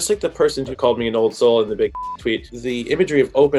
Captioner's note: beep